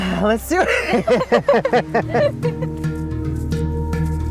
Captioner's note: both laughing; upbeat music